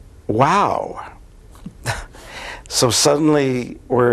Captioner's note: chuckles